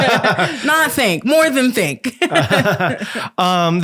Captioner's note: laughing